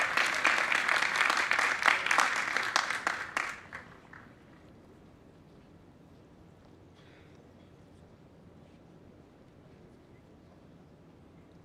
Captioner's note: applause